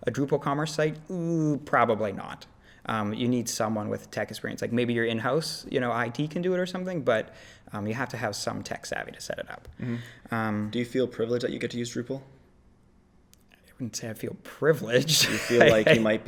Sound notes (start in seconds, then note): 15.0 laughs